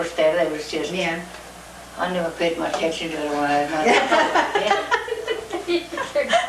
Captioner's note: laughter